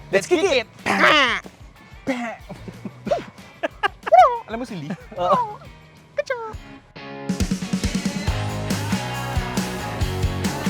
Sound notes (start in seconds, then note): 3.7 laughs